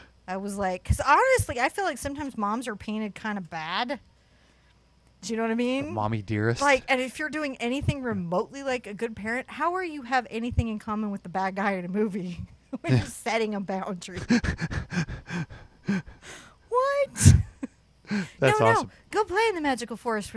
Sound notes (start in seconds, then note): 14.2 laughs; 18.1 both chuckle